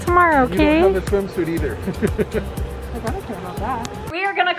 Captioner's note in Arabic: يضحك